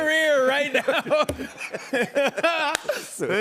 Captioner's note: laughter